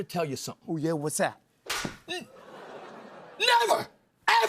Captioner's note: smack